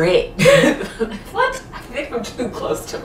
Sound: laughing

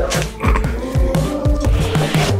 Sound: snickers

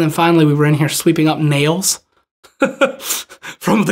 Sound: laughs

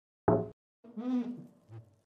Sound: knock on the inside of the oven door

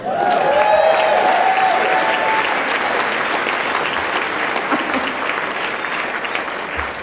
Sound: applause

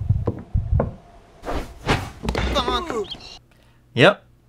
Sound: game audio: "Bonk!"

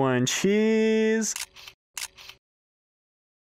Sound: camera shutter

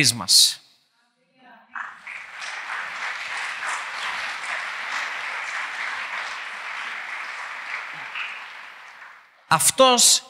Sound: applause

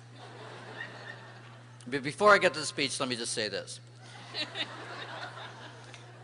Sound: laughter

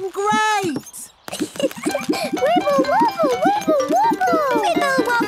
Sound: giggles

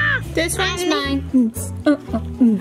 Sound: growling; hums

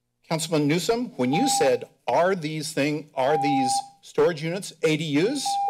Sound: timer rings

